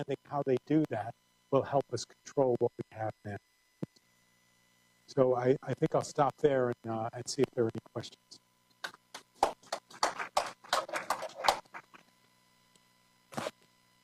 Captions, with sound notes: EPIDEMICS ARE NOT SINGLE EVENTS. UNDERSTANDING THEM WILL HELP US CONTROL WHAT WE HAVE NOW. I'LL STOP THERE AND SEE IF THERE ARE ANY QUESTIONS. [APPLAUSE]